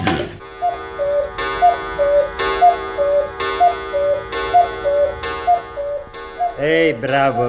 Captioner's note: cuckoo clock